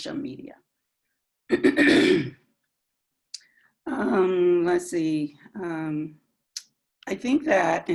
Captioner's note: cough